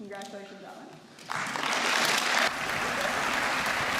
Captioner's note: applause